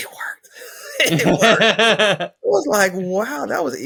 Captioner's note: laughs